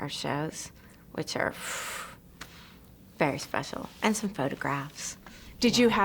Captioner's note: exhales